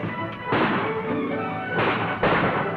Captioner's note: gunfire